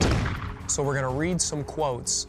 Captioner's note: gunshot firing